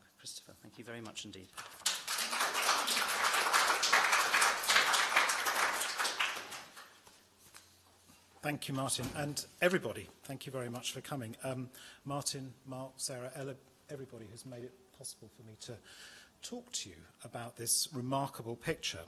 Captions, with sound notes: Christopher, thank you very much indeed. [applause] -Thank you, Martin, and everybody. Thank you very much for coming. Martin, Mark, Sarah, Ella, everybody who's made it possible for me to talk to you about this remarkable picture.